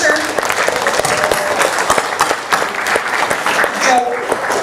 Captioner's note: applause